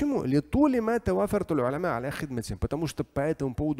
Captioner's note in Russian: Говорит на арабском